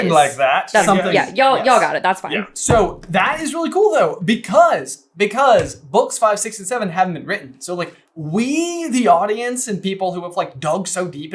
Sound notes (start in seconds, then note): none